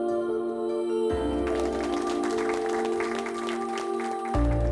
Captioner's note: applause